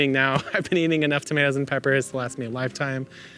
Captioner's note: laughs